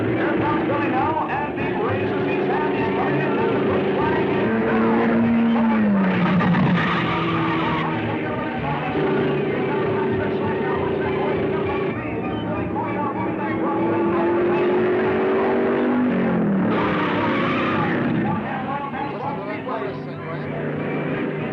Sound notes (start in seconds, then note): 1.6 car thrumming; 5.4 car booming; 8.3 car revving; 12.0 car whirring; 15.7 tires squealing; 18.4 thrilling music